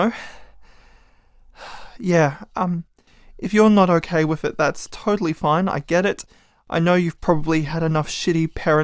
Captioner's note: sigh